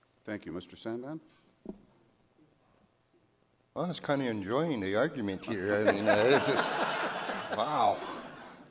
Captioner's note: audience laughter